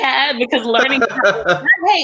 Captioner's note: laughs